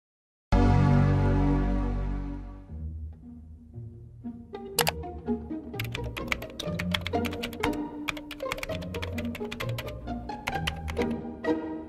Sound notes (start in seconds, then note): 4.8 clicking noises